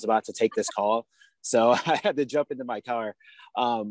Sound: laughs

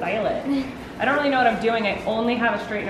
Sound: chuckles

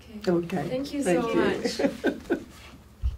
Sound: laughs

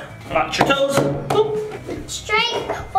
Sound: slapping

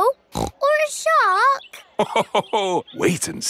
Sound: snorts; laughs

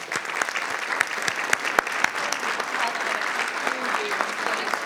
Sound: audience applauding

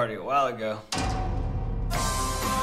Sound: clang

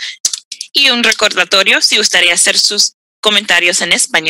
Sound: speaks foreign language

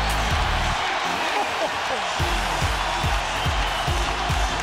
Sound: audience cheers

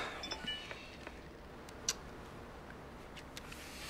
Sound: phone beeps

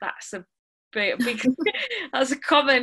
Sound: laughing

